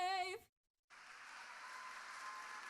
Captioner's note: applauding